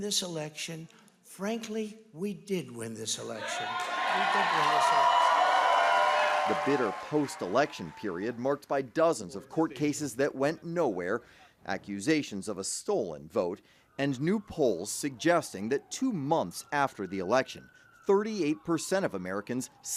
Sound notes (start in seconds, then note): 8.0 cheers